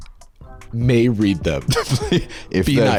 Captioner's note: laughs